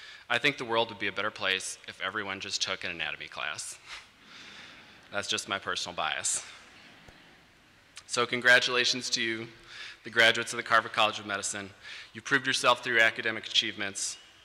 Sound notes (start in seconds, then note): 3.8 laughter